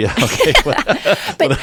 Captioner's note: laugh